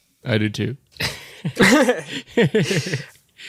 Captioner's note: laughter